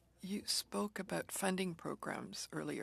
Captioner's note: speaking French